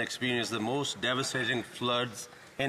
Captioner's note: speaking French